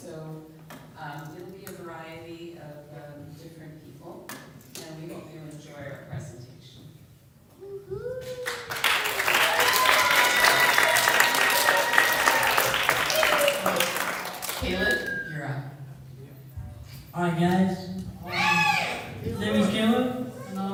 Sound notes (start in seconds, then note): 8.2 applause